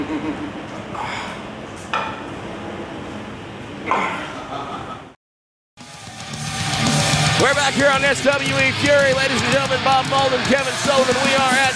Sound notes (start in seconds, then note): 0.0 laugh; 5.8 rock music